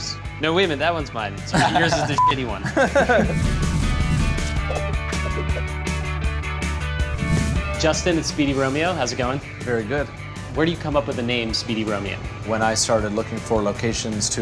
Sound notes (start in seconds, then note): 2.1 beep; 3.7 upbeat music